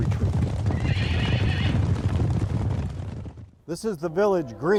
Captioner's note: horse stomps; horse neighs